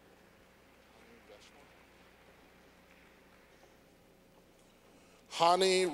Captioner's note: clapping